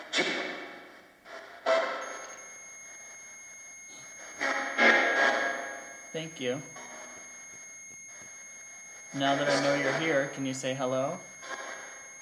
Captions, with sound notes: (static crackles) (sustained ringing tone begins) Thank you. Now that I know you're here, can you say hello?